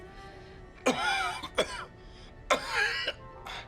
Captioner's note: coughing